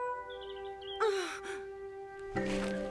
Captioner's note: gasps